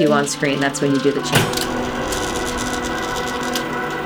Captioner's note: clank!